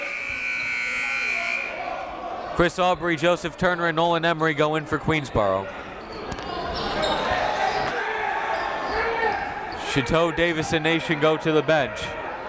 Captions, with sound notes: (buzzer) Chris Aubrey, Joseph Turner, and Nolan Emory go in for Queensborough. Chateau, Davis, and Nation go to the bench.